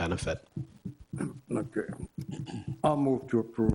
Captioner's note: clears throat